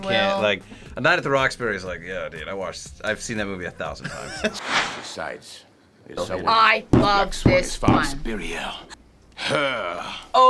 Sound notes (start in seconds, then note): 4.2 laughs